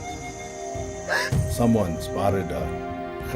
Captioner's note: gasp